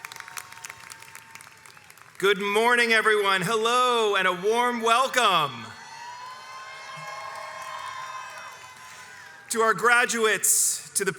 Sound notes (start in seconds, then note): 5.4 crowd cheers